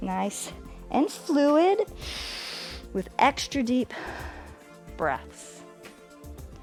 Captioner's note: inhales